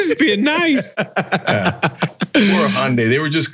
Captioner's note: laugh